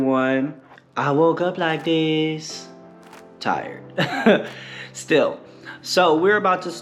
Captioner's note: laugh